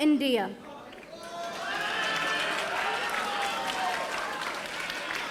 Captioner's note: audience applauding